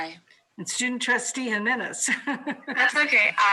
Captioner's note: laughs